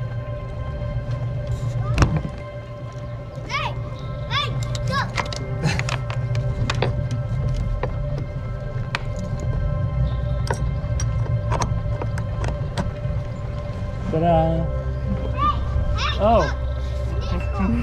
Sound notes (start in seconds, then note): 5.6 chuckles